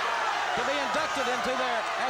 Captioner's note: crowd cheering